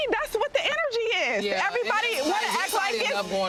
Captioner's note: people speaking indistinct